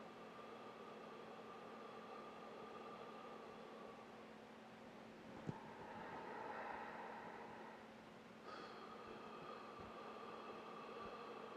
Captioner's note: breathing